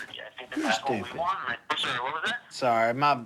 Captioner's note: on phone